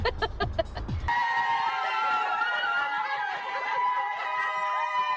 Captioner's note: all screaming